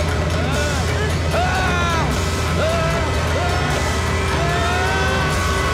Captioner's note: Screaming